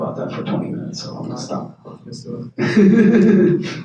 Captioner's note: laughs